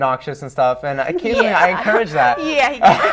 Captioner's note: laughing; laughter